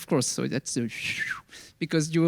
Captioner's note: whistles